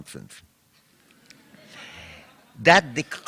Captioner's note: laughter